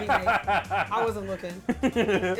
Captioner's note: laughs